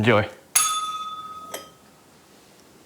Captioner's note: bell rings